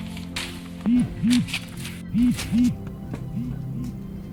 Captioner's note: pages rustling; phone buzzing